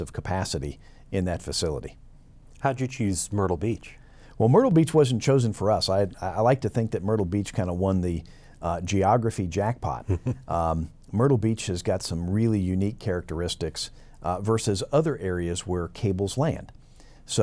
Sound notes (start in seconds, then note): 10.0 chuckles